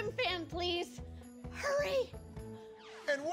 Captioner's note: whispers